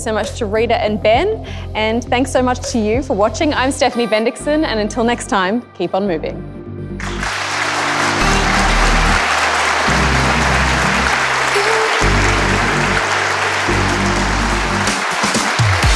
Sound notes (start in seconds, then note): 7.0 audience applauding; 10.6 upbeat music